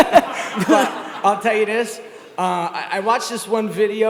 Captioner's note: Gary laughs